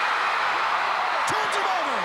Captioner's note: crowd cheering